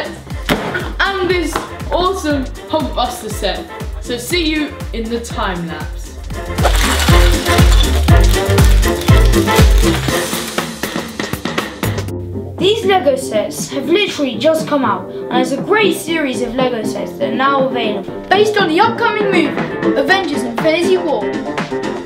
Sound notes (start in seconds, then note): 6.3 pieces clattering; 9.8 bouncy upbeat music